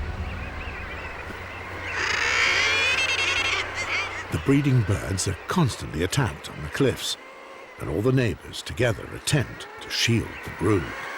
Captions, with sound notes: [bird cawing] The breeding birds are constantly attacked on the cliffs and all the neighbors together attempt to shield the brood.